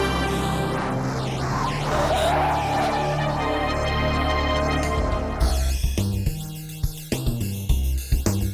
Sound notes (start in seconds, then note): 1.8 tires screech; 5.3 smooth jazzy music